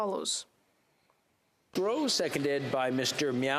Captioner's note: speaking French